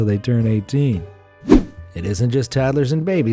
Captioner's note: air whooshing